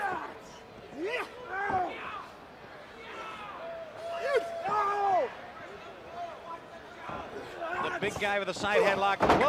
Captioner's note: crowd chatter